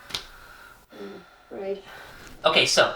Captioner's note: mumbles